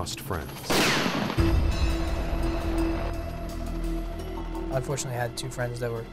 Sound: bullet whizzing; dramatic music

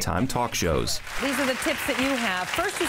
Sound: audience clapping

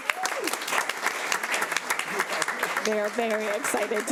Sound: audience applauding

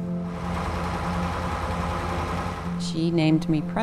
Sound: truck engine roaring

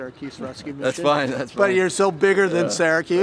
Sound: laughs

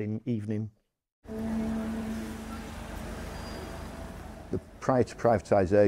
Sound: traffic rumbling

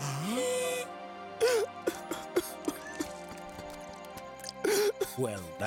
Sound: gasping; sobbing

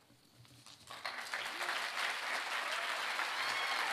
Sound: applause

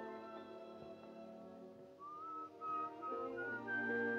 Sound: whistling

